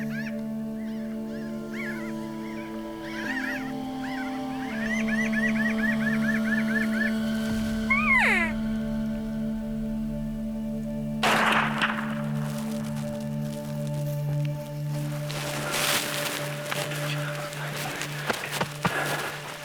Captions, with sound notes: (elk call sounding) (gunshot firing) - Good job. - Thanks buddy.